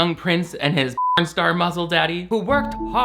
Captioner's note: beep